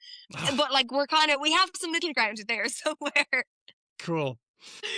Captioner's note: laughs